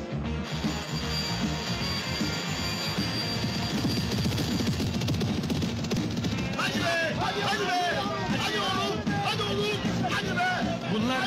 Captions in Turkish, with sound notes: [START ZİLİ ÇALAR] [BAĞIRIRLAR] Hadi be! Yürü be! Yürü oğlum!